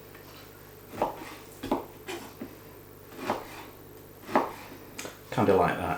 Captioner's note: slicing